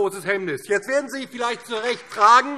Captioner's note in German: Beifall DIE LINKE